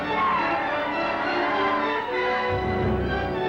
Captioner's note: Indians howl